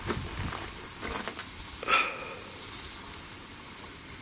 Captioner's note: beeping